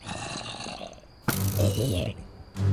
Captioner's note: zombie gurgle; arrow thwip